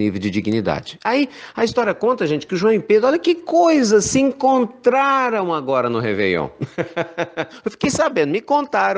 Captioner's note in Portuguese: risadas